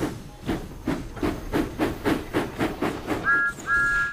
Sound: chuffing and engine whistles

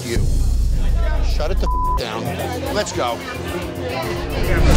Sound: beep

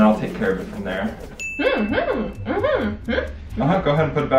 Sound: chimes tinkling; mumbling

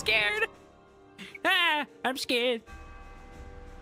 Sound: goofy Voice

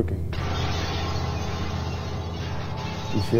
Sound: glass breaking

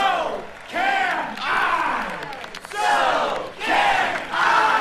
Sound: crowd chants

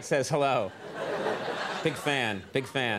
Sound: audience laughing

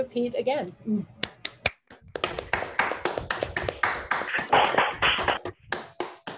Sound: applause

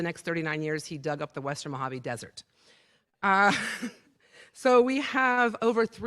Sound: laughter

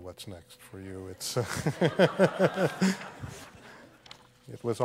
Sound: laughter

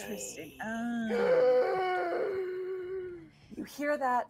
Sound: wheezing

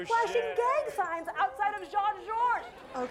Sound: laughs

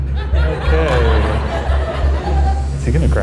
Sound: audience laughs

